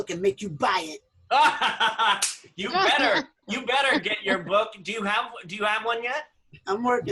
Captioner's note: laughter